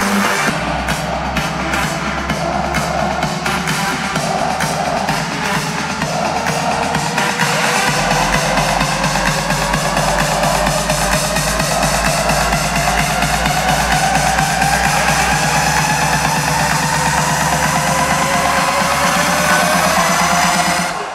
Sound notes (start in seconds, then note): 5.8 crowd